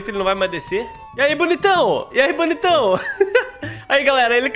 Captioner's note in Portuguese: risos